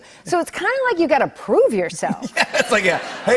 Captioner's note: laughter